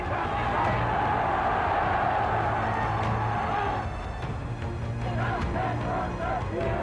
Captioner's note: crowd cheers and chants in German